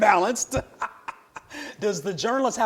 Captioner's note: chuckles